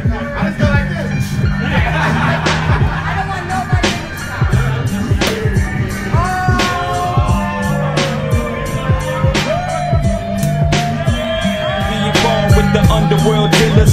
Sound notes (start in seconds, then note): 2.3 laughing; 3.3 woman Shouting; 6.1 crowd; 11.9 laughing and jubilation cheers